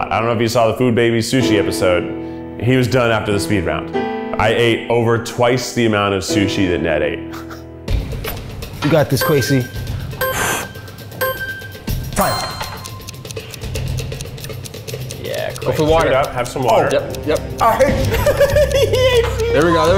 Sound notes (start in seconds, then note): 9.0 countdown dings; 12.6 clock ticking; 17.9 laughing